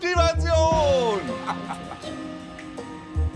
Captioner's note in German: lacht